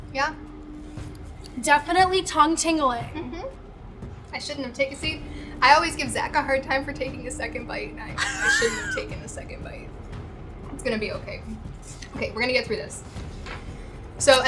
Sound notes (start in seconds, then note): 8.1 laughing